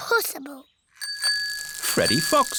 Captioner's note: bicycle bell rings